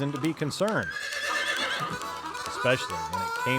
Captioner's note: horse neighing